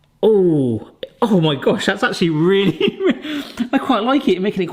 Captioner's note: chuckles